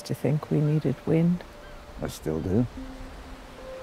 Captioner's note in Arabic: هبوب عاصفة من الرياح